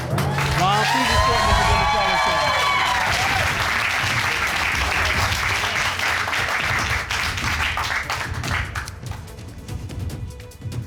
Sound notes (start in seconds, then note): 2.6 cheering and applause; 7.8 dramatic music playing